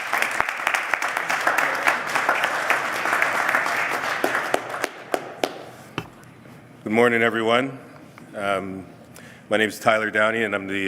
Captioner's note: applause